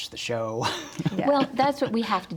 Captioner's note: laughs